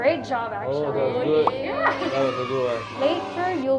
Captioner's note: sound effects